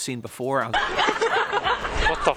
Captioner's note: laughing